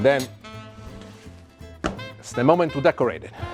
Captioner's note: stomps foot